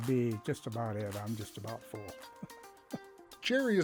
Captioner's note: laughs